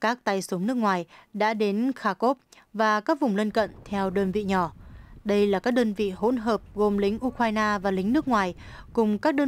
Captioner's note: ukrainian and foreign